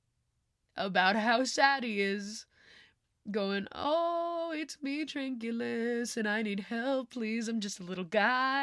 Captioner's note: sing-songy